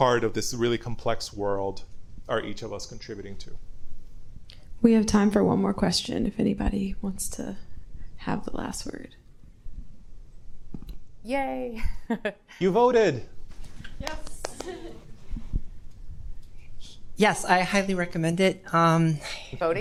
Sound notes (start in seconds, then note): 11.9 chuckles; 14.4 chuckles